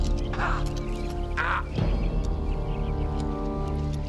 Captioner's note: Carl exclaims